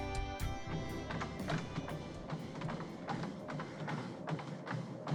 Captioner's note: treadmill pounding